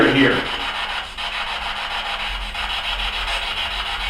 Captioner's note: static buzzing